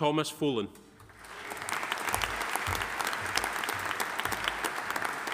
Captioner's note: audience applauding